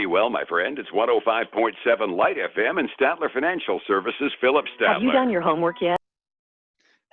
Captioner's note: radio